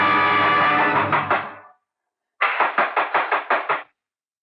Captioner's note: Knock On Door